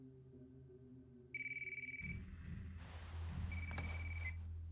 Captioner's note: mobile ringing